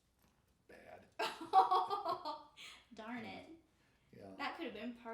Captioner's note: laughing